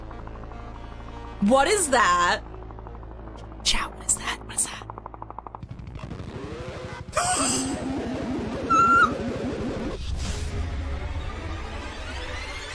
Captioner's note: whispering